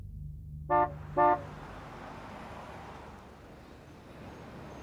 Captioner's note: horn honking